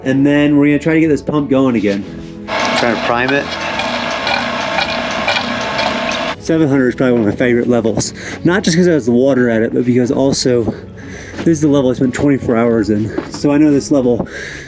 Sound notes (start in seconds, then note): 4.3 pump running